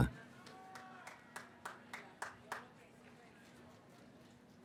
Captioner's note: cheering